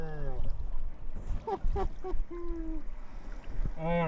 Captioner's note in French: rire